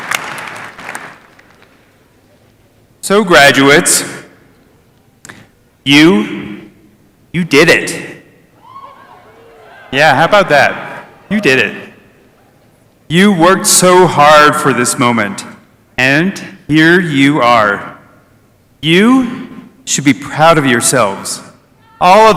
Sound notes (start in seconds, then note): 5.6 applause